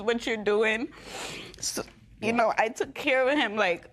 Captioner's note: sniffles